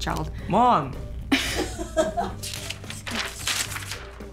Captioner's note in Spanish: se ríe